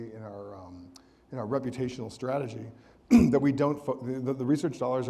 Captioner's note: clears throat